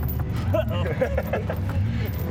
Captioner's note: laughter